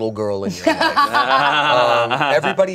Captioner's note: everyone laughs